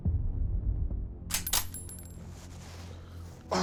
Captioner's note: cocks rifle